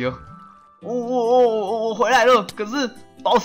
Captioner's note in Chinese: 意義不明的叫聲